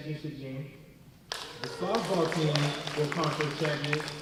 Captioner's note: applause